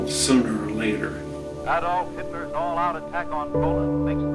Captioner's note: radio Broadcast